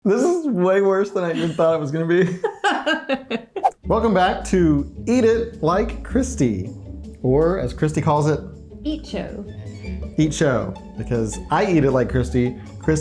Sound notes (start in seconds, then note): 2.5 laughing; 9.4 playful music